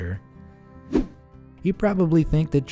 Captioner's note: air whooshing